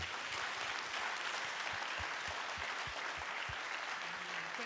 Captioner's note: applause